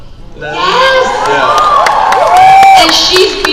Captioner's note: crowd cheers